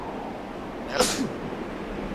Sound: sneezing; tense music; wind blowing violently

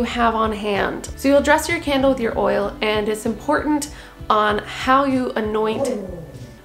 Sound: interuppting grrrrr

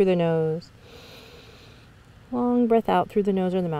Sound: inhales deeply

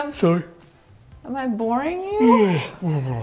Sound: yawns

